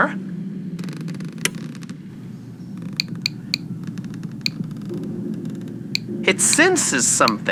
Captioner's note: listener powers on the machine and it clicks fx